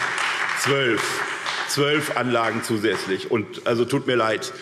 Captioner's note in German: Beifall SPD, Freie Demokraten und DIE LINKE